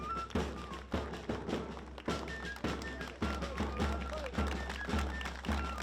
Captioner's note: applause